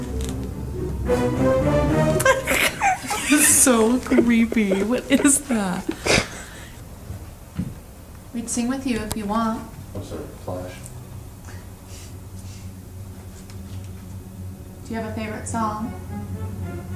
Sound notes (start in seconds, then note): 2.1 giggling; 16.7 suspenseful music